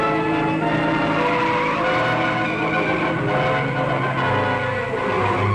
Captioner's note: tires squealing